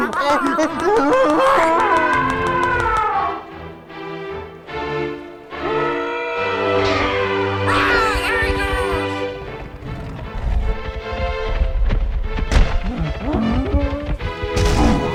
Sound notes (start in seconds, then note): 1.8 ਹਾਥੀ ਤੁਰ੍ਹੀ ਵਜਾਉਣਾ